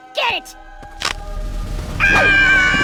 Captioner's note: stick cracks